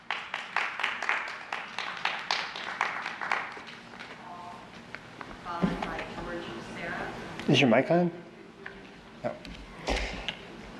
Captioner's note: applause